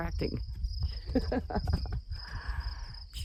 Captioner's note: laughing